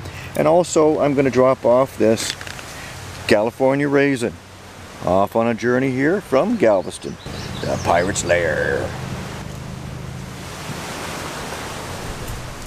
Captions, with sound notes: And also I'm gonna drop off this California raisin. Off on a journey here from Galveston. [in a pirate voice] The Pirates lair.